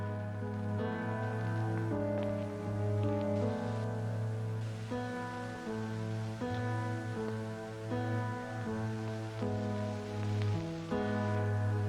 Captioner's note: music and tape recorder static fades out